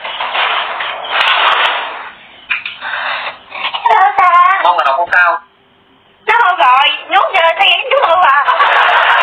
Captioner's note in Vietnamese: Vỗ tay